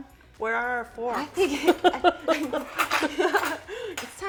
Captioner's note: laughing